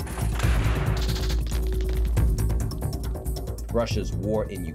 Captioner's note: guns blast